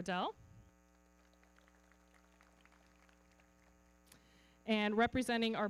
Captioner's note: everybody clapping